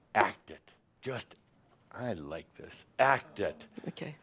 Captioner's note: he smacks his podium